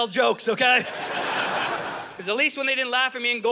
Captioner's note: audience laughing